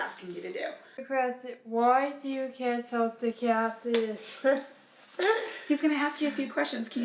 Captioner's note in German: lacht